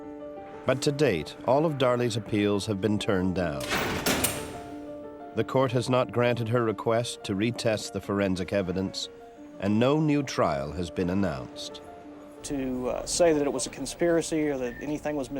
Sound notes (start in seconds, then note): 3.5 bars clank